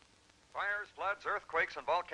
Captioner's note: radio Announcer